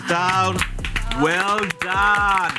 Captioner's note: group applauds